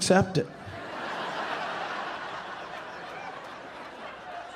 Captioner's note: audience laughing